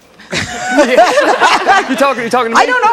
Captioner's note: laugh